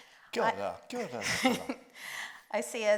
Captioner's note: speaks in Māori; chuckles